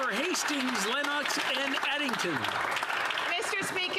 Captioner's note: applause